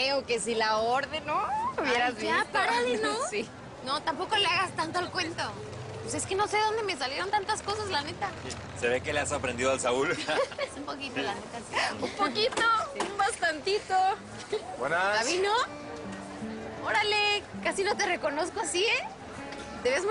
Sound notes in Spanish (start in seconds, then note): 10.1 Risas